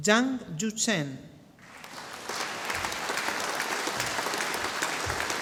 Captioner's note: audience applauding